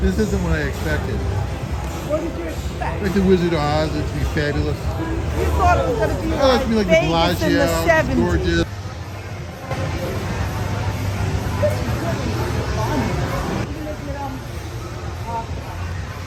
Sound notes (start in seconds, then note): 9.8 people chattering; 14.9 speaks faintly